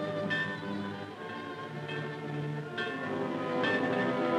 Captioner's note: bell clanging